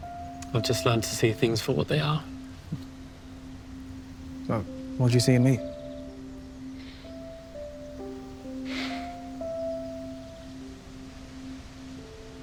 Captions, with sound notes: - I've just learned to see things for what they are. - But what'd you see in me? (sentimental music) (birds chirping) (stranger sighing)